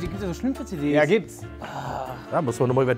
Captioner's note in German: Stöhnen